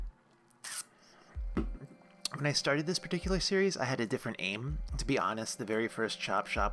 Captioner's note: static; sucks teeth